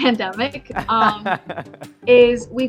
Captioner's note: host laughing